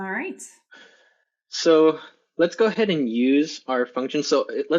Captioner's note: sighs